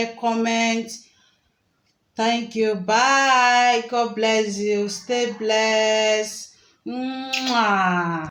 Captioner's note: kisses